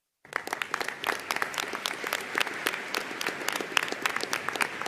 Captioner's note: audience applauding